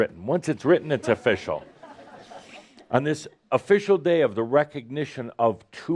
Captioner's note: laughter